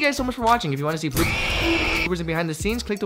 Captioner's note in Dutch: gekrijs